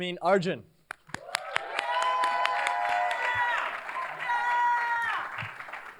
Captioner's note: cheers, applause